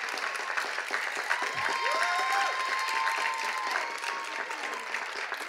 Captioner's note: cheers and applause